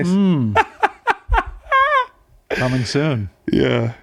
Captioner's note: laughing